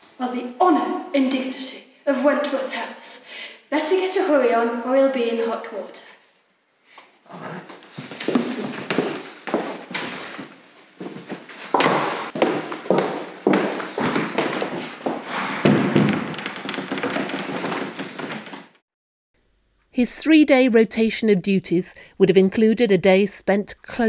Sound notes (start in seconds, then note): 15.0 sighs